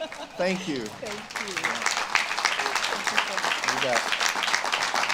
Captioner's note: audience claps